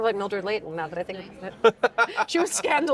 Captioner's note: laughing